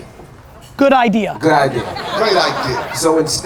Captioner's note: audience laughter